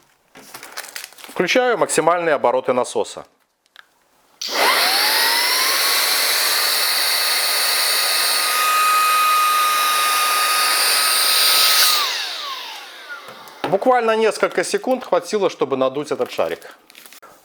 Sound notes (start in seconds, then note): 8.5 motor noise